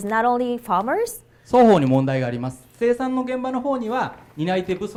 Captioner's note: speaking foreign language